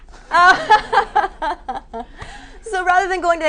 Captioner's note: laughing